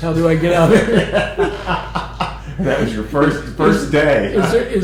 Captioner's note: laughter